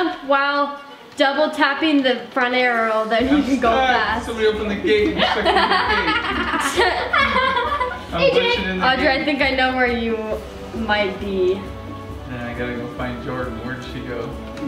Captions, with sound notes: - If you jump while double tapping the front arrow then you can go fast. - Somebody opened the gate and shut in the gate. (laughs) - Audrey I think I know where you might be. - I gotta go find Jordan where did she go?